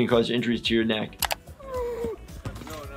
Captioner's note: groaning